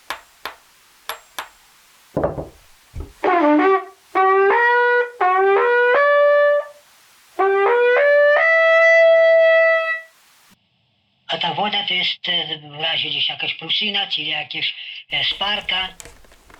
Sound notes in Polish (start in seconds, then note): 3.2 trąbi